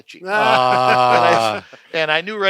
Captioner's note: men laughing